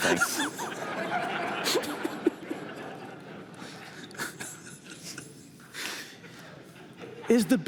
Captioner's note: laughter